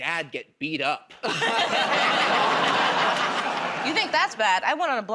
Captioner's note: laughter